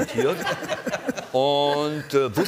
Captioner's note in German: Lachen